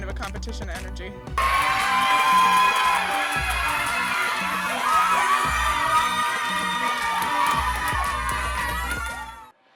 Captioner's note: cheering